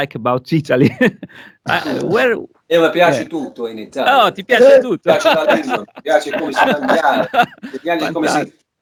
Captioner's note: talking in italian